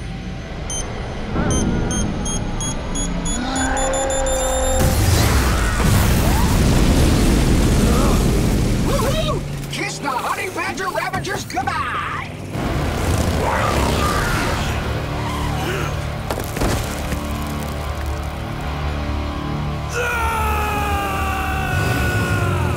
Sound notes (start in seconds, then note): 0.0 beeping; 1.4 beeping faster; 3.4 screaming; 19.2 screaming